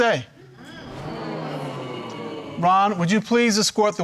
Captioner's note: audience murmuring